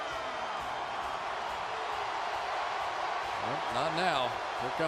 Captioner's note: cheering